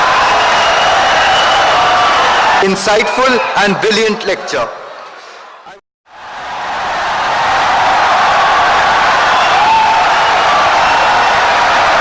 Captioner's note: wild applause and cheering for 17 seconds